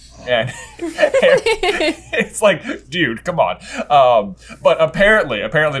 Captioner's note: laughter